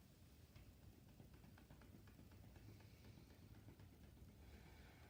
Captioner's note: gentle tapping